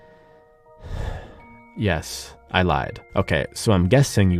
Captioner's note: sighs